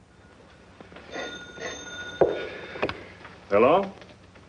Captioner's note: phone rings